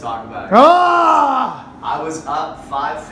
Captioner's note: groans